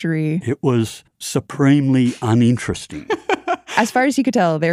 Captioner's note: laughs